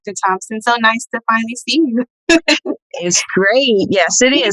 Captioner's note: laughing